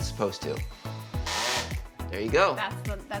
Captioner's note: drill whirs